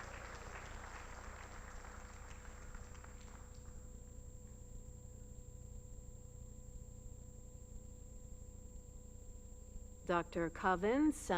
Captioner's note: applause